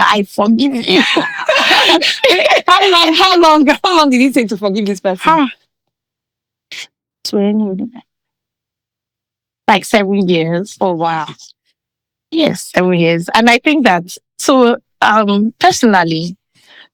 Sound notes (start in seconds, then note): 0.7 laughing